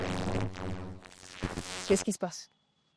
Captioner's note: electrical noise